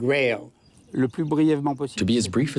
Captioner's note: speaking in foreign language